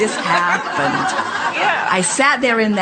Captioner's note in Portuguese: A platéia ri